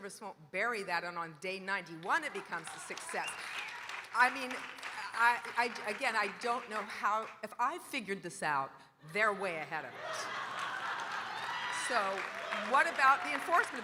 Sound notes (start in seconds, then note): 2.2 audience cheering and applauding; 9.9 audience laughing